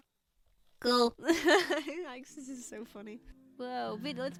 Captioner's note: laughs